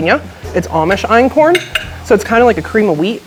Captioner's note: spoon tapping